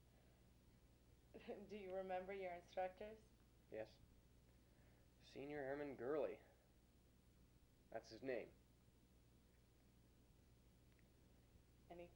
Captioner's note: chuckles